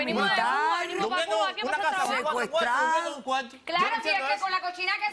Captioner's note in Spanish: Hablan al unísono